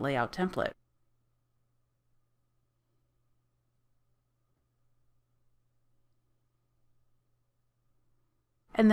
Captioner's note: silence